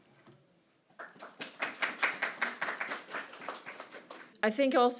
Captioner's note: audience clapping